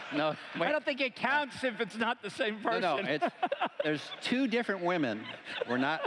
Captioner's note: laughter